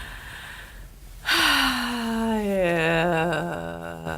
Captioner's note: sighing